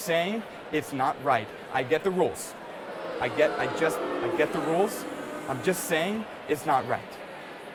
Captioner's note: sounds of booing